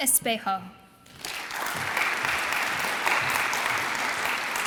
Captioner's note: audience applauds